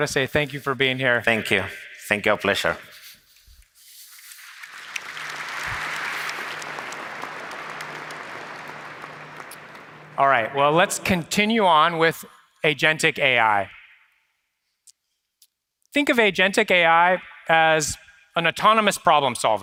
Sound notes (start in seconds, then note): 8.4 applause